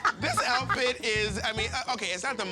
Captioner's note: laughing